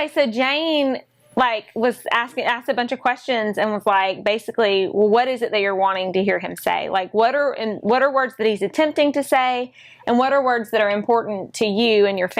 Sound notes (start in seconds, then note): none